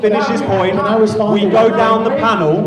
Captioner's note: shouting